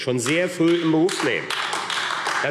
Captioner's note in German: Beifall AfD